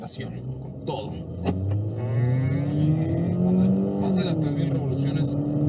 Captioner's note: engine roaring